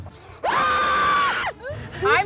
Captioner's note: screams